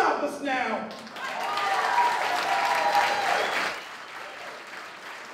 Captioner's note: applause